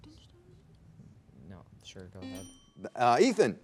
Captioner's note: students whispering; buzzer buzzing; bell dinging